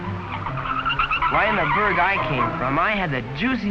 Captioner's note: tires screeching